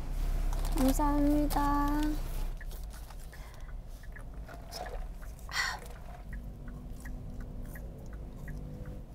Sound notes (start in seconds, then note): 2.5 eating